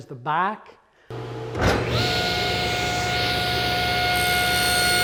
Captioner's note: bandsaw Cutting